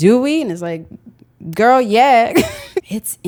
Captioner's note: laughs